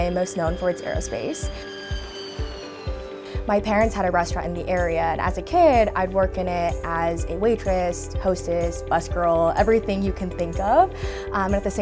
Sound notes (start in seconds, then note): 0.6 jet whining